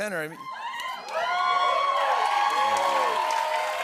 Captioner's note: cheers and applause